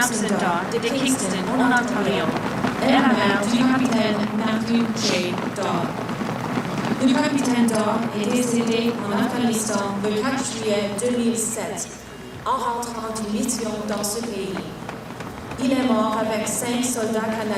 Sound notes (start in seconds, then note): 0.0 speaking French; 0.5 applause; 3.2 speaking French